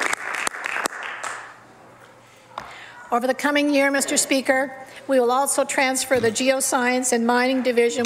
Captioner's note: some Applause